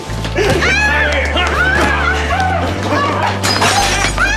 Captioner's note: screaming